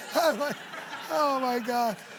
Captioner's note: laughing; laughter